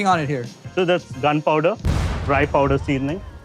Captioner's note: loud boom